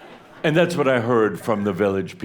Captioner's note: some laughter